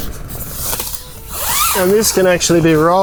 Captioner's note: zipper zips